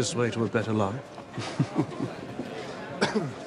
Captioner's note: <i> chuckles</i>